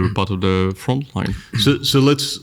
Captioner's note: clears throat